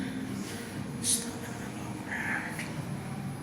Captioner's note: whispering